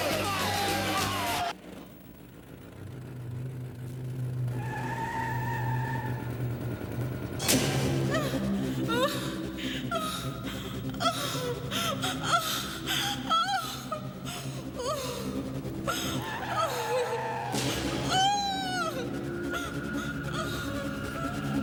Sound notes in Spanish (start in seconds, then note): 4.5 Pneus cantando; 7.9 Música de suspense; 9.2 Gritos; 19.1 Gritos